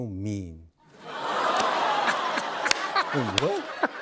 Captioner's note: laughter